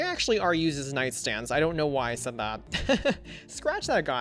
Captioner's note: laughs